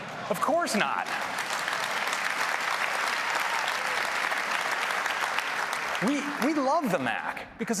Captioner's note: applause